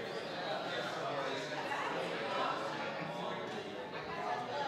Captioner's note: people chatting